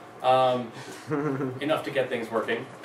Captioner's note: laughs